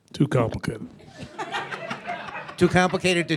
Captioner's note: audience laughing